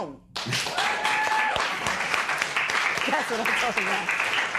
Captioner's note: cheering and applause